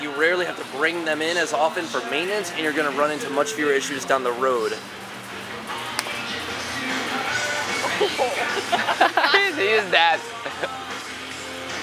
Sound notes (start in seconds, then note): 5.9 snaps fingers; 7.9 laughs